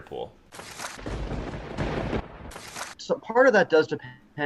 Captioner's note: lighting strikes